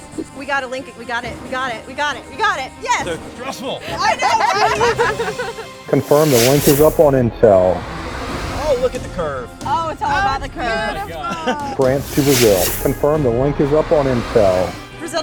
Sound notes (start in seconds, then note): 3.8 laughter; 6.0 voiceover; 12.1 voiceover